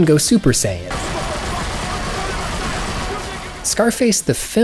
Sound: men screaming; gunfire roaring

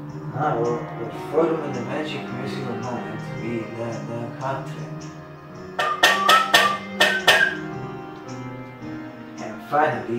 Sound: whistle

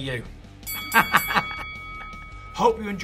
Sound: bell rings; laughs

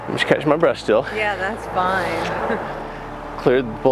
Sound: chuckling

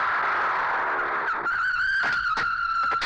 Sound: tires Screeching

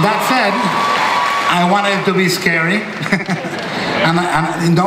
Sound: laughs

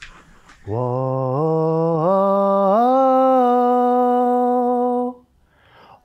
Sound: vocalizes

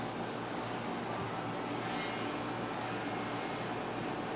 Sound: drill whirring

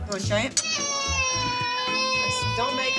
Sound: crying

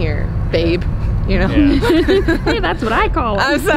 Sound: laughs

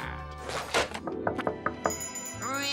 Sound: knocking

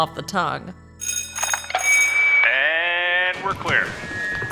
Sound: soundbite of set bell; through megaphone

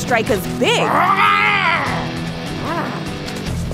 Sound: growls

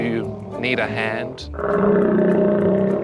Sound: growls

